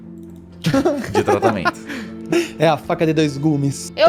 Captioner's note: laughter